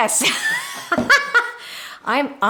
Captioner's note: laughing